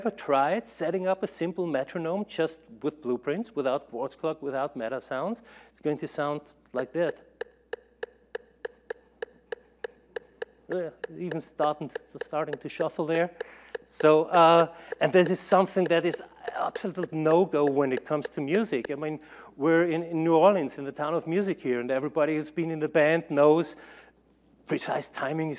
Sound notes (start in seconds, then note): 7.1 uneven metronome